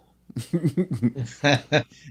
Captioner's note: laughter